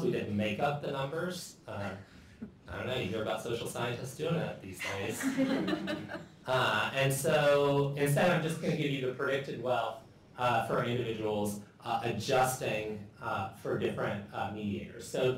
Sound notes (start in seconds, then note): 4.8 laughter